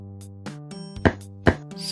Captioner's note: clop clop